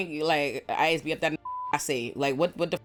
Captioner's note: beep